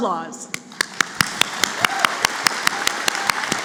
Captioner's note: applause